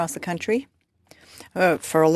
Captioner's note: speaking French